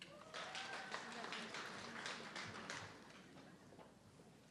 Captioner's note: audience clapping